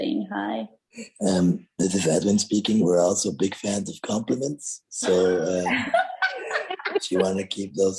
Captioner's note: all laughing